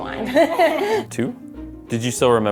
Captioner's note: laughs